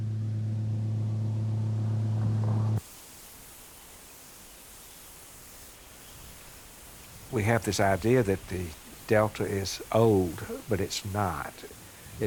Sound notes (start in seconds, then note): 2.8 leaves rustling; 3.6 wind whooshing